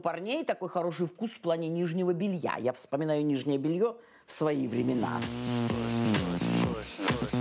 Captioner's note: speaking russian